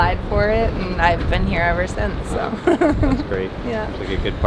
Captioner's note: laughs